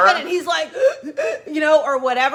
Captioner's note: breathes deeply